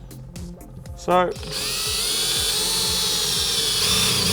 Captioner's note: battery-powered drill